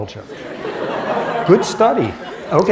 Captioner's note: laughter